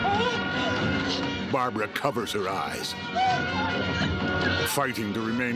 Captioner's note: music surging; whimpering